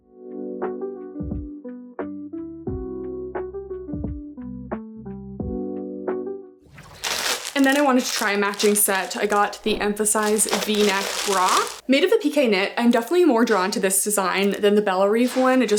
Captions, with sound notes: [gentle music] [plastic crinkling] And then, I wanted to try a matching set. I got the Emphasize V-neck Bra. Made of the pique knit, I'm definitely more drawn to this design than the Bellerive one.